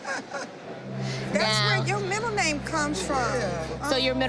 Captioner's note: chuckling